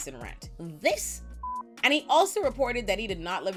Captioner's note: beep